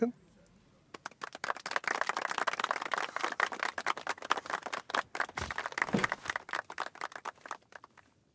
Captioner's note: applause